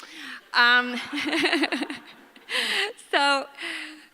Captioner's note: audience laughs